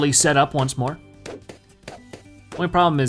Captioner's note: balloons popping